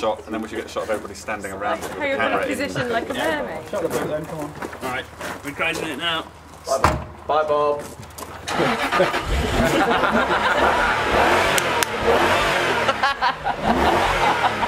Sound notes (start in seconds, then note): 8.4 engine Starts; 8.5 everyone laughing; 10.1 engine revving loudly